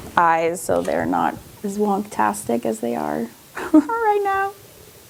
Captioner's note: laughs